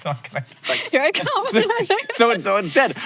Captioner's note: giggles